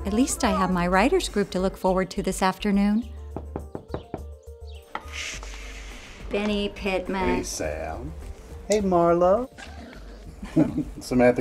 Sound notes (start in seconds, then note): 3.3 knocking on door; 9.6 dog growls quietly